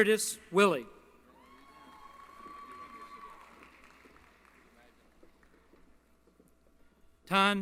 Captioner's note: applause